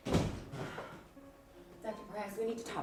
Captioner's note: door bangs